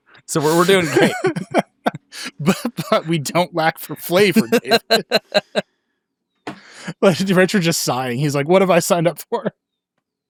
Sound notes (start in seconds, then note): 0.3 laughing